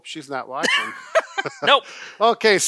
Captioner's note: laughs